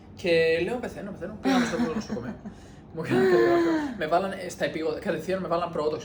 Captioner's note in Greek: γέλια